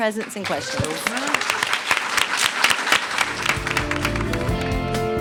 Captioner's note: applause